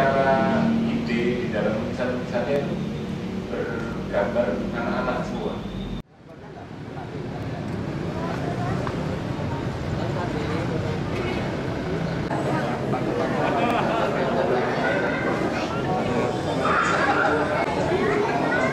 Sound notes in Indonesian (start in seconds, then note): 7.6 suara kendaraan